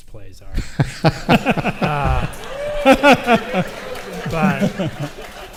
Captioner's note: audience laughs and applauds